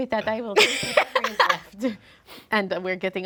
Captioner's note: Omelette laughing